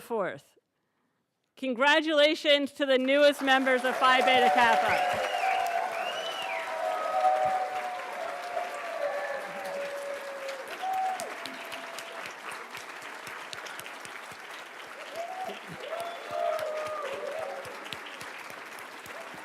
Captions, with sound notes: Congratulations to the newest members of Phi Beta Kappa. (everybody applauds)